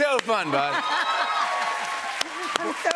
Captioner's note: cheers and applause